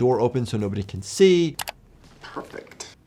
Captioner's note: mouse clicking